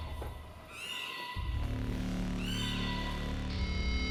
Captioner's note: sirens blaring